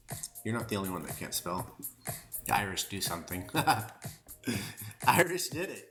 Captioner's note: laughter